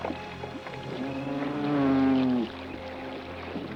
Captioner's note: Gitano bellows and snorts